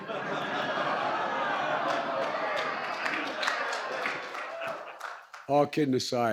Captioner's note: laughter